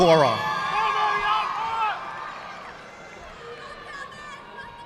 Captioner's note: audience clapping